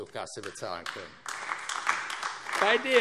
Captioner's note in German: Beifall AfD